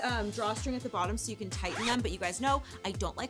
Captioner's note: zipper zipping